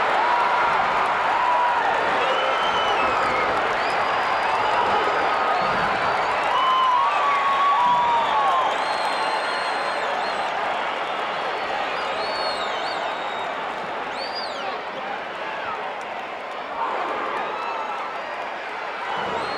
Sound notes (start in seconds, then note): 0.2 audience applauding and cheering; 11.1 audience chattering